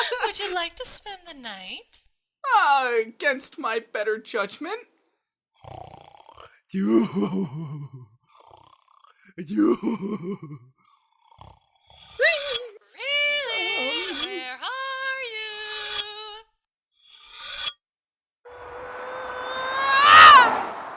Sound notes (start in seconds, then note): 5.5 Ox King snoring; 12.0 sound of knife sharpening; 15.6 sound of knife sharpening